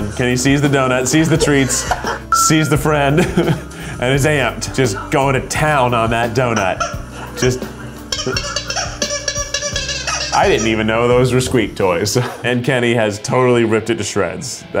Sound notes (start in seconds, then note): 8.0 toy squeaks